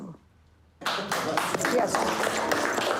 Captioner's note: applause